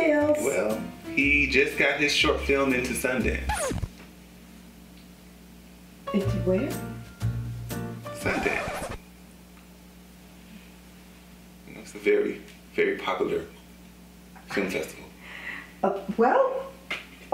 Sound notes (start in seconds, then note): 3.4 raspberry sound effect; 6.6 hokey music; 8.2 raspberry sound effect then silence